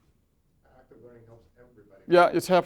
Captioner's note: voiceover